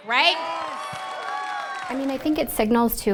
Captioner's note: crowd cheers